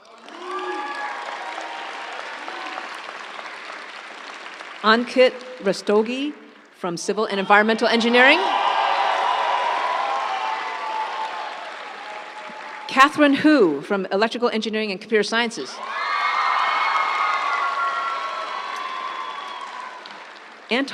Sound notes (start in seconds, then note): 0.0 audience cheering; 0.0 audience applauds; 7.7 audience cheering; 8.0 audience applauds; 15.8 audience cheering; 15.8 audience applauds